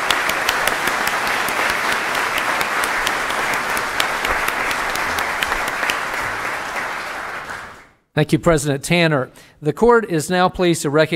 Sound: applause

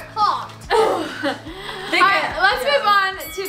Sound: laughing; buzzer

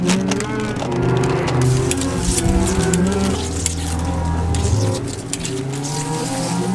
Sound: film rustling loudly; keyboard clacking loudly

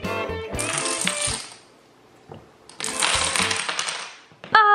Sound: dominoes falling

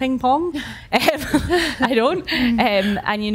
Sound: laughs

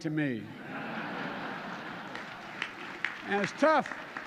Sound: laughter and applause

